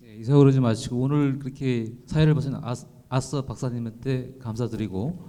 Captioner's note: speaking in foreign language